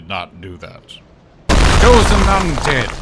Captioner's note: crash sfx